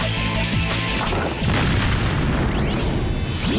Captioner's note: explosion